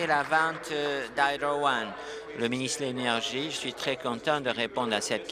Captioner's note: applause